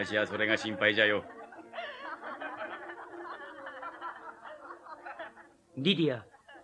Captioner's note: SFX: townsfolk